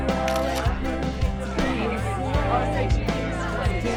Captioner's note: all talk excitedly